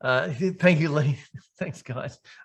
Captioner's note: laughing